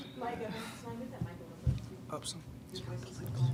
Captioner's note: speaking faintly